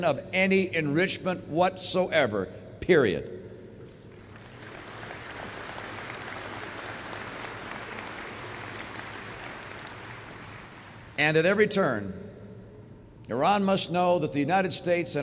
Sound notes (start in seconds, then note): 4.0 applause